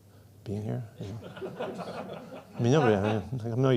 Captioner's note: laughter